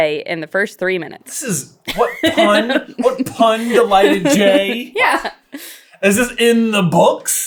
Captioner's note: laughing